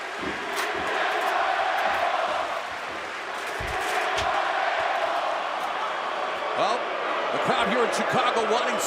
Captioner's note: crowd cheering